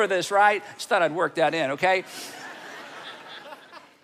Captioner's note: audience laughing